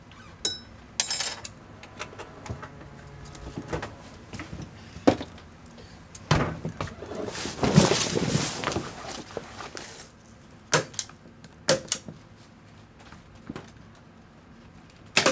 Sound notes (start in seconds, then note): 0.4 spoon clinking; 6.3 door thuds; 7.6 leather rustling; 10.5 stapler clicking